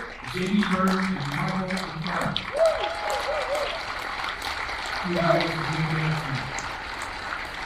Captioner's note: attendees cheering